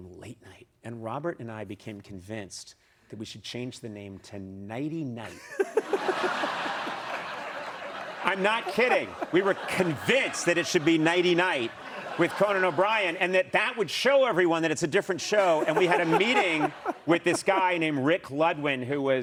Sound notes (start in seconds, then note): 5.2 laughter; 10.8 laughter and applause